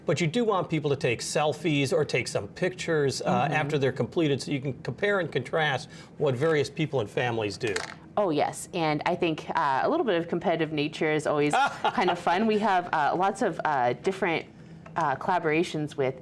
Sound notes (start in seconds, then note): 11.5 chuckles